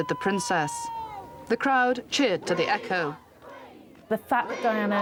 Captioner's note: crowd